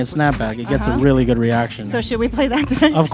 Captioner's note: laughs